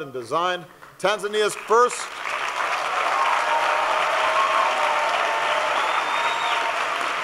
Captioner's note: applause